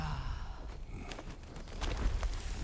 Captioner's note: grunt